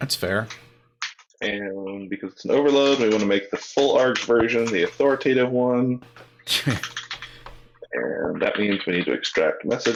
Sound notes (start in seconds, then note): 6.4 laughing